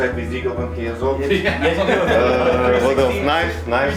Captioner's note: group laughing